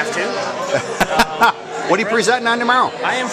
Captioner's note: laughter